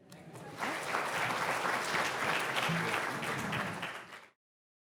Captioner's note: audience applauds